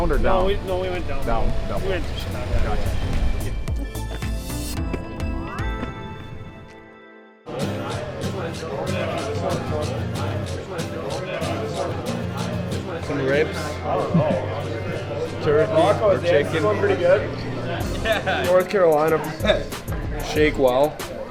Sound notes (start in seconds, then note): 4.1 upbeat music; 14.0 camera man laughs